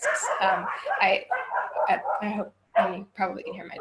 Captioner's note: barking